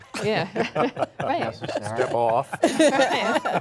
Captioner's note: panelists laughing